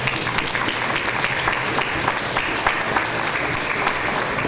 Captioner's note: audience applause